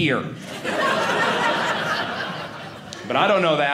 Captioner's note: audience laughing